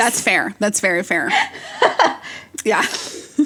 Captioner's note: both laugh